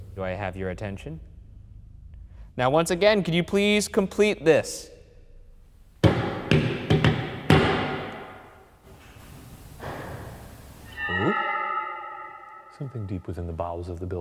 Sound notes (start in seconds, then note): 6.0 knock thudding; 9.9 knock thuds; 10.8 eerie dramatic music